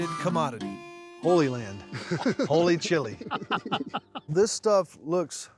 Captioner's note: laughs